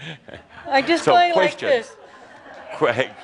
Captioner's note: chuckles